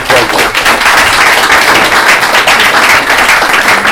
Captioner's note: applause